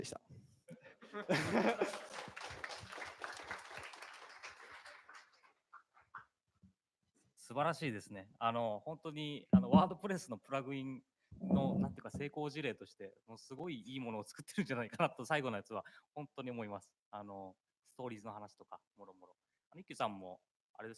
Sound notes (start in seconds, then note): 1.3 applause; 12.4 speaking japanese